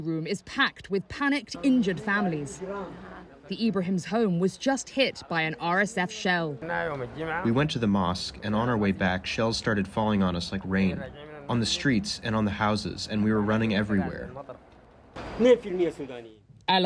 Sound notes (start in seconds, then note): 7.8 through translator